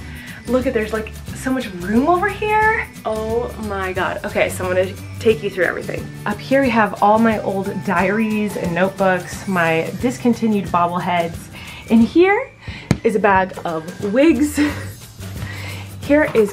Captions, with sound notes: Look at it, there's like so much room over here. Oh, my God. Okay, so I'm gonna take you through everything. Up here, we have all my old diaries and notebooks, my discontinued bobble heads, and here (thudding) is a bag of wigs (laughing). Here is camera equipment